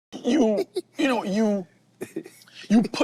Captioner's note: chuckling